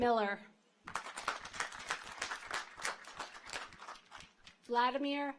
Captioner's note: audience applauds